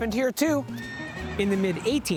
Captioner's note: horse neighing